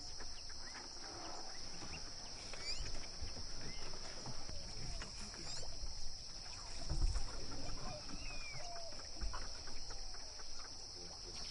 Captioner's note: birds chirping